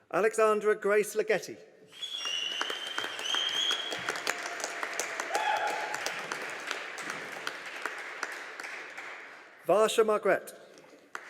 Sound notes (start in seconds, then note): 2.0 audience applauding; 11.1 audience applauding